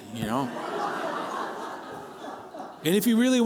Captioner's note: laughter